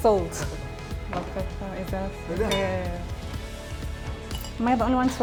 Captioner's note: background chatter